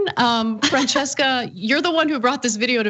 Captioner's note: laugh